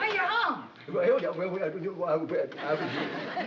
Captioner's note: stammering